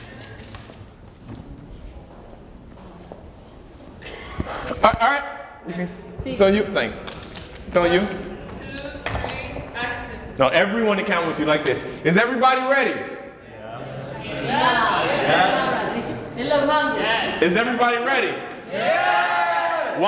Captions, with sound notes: - One, two, three, action - No, everyone to count with you, like this Is everybody ready? (crowd agrees) Is everybody ready? (crowd cheers)